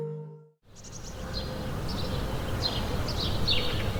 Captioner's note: birds chirping